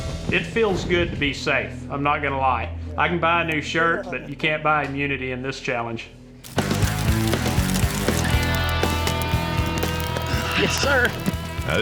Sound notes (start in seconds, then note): 6.4 fire crackling